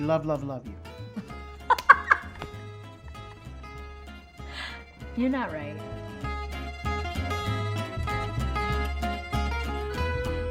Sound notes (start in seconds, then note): 1.2 laughing; 7.0 upbeat tropical music